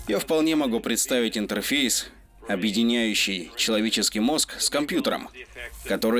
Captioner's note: none